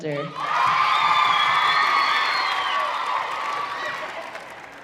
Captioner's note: audience cheering